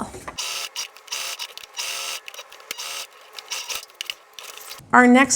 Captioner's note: video fast-forward trilling